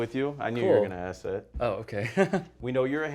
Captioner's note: laughs